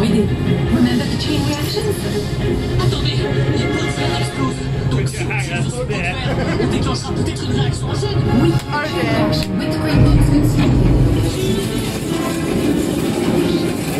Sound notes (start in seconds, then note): 5.2 laughs